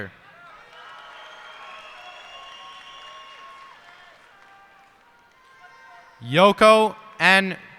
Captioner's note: cheers and applause